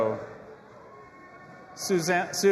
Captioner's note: audience applauding and cheering